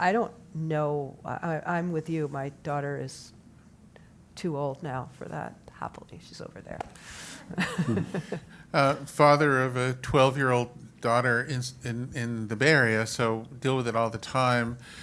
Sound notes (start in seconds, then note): 7.5 laugh